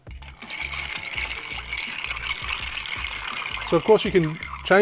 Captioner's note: ice cubes rattling